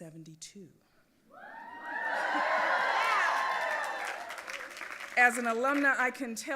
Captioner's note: audience applauding and cheering